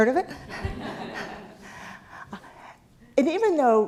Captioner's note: laugh